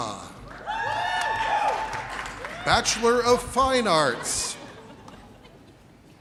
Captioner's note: audience cheers